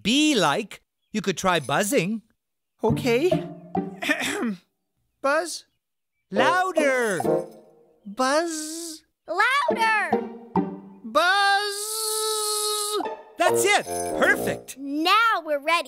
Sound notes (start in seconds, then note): 4.0 clearing of throat